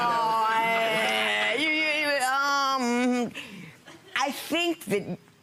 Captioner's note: audience laughing